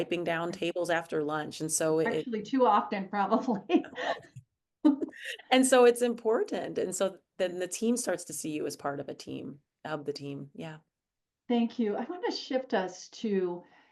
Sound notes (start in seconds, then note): 3.5 chuckles